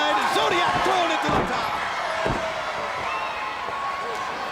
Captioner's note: body slamming